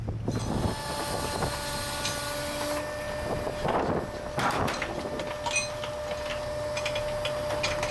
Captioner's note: sound of a crane operating